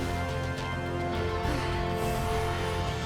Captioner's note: panting